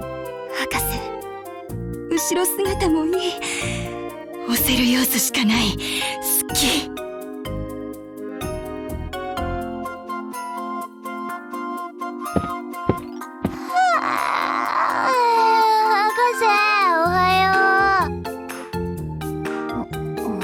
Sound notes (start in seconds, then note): 13.6 yawn